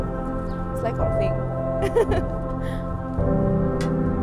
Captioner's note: laughs